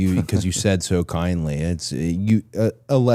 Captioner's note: person on right laughing